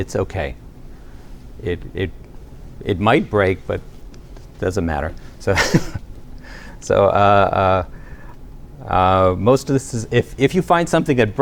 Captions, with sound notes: It's OK. It might break, but it doesn't matter. [LAUGHTER] So most of this is-- if you find something that